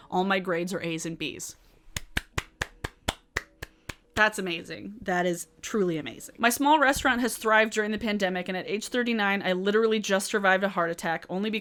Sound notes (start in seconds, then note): 2.0 claps